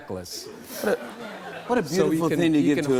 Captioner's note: laughter